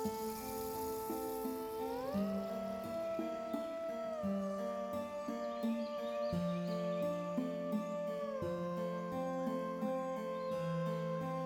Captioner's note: scuttling